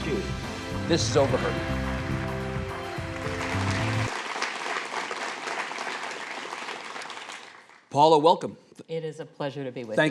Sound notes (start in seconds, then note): 1.3 audience applauding